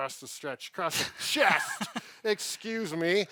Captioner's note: both laughing